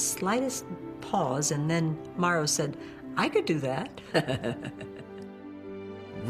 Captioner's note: laughs